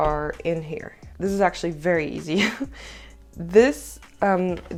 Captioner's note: aughter